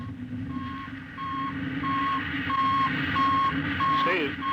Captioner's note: beeping